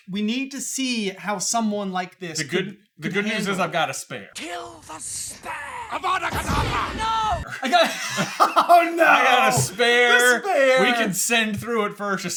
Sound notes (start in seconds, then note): 7.4 cracks up